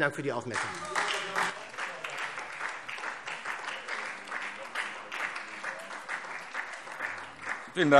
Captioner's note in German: Beifall SPD